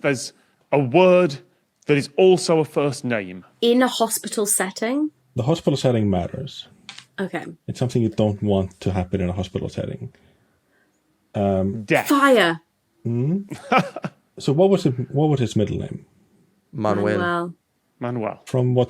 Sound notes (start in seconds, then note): 13.5 laughs